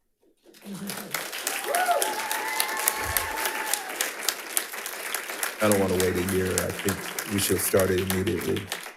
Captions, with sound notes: (audience applauds) (audience cheers) I don't wanna wait a year, I think we should start it immediately.